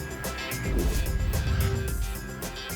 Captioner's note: whoosh